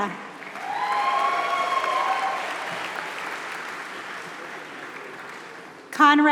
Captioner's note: applause